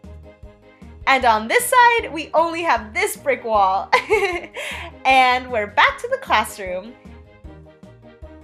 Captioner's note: giggles